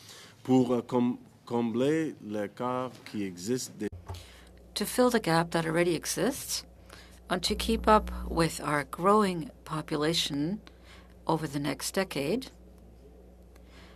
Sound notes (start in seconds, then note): 10.1 speaking French